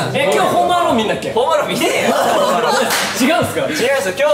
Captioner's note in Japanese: 笑い